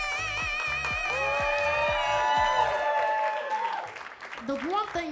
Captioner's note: crowd cheers